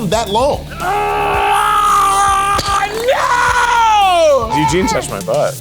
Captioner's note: Keith screams